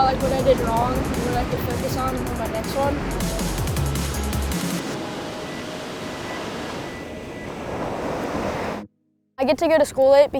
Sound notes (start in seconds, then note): 3.4 bright techno music; 3.9 waves crashing